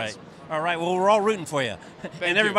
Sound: laughing

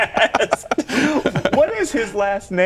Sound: laughter

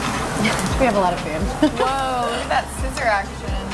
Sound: laughing

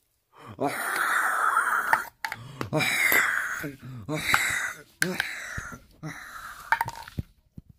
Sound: screaming

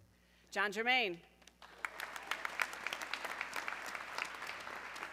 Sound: audience clapping

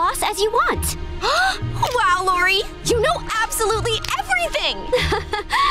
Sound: gasping; chuckles

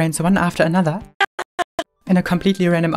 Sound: fragments of groan

